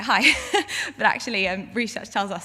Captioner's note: laughs